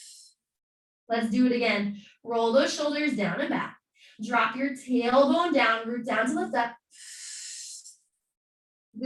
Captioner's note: exhaling